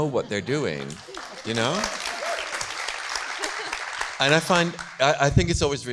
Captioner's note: audience claps